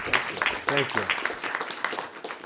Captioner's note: applause